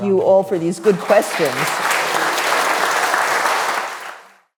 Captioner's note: attendees clapping